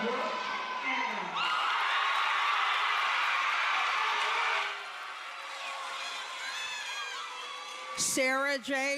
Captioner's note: loud cheering